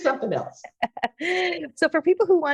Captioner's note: laughing